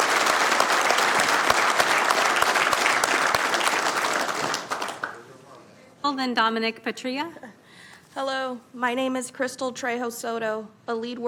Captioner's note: applause